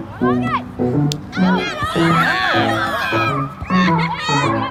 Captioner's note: kids cheering